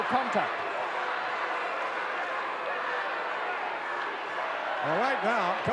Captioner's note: audience cheering